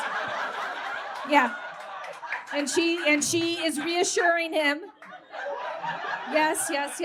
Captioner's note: audience cackles